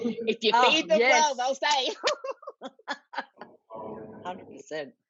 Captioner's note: laughs